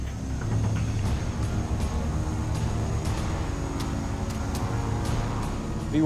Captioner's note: humming; sinister music